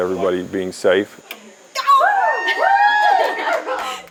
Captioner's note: shouts and cheers